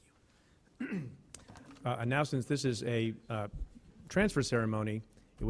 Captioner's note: clears throat